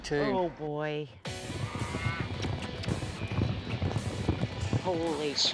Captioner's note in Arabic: ضربات حوافر